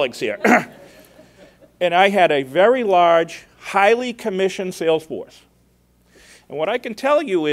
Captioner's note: laughter